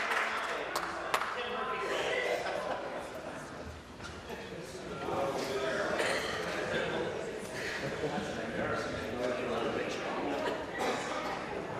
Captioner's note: applause